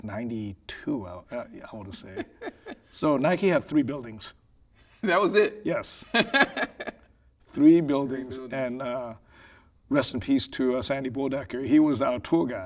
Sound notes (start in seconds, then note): 3.4 laughing; 6.1 laughing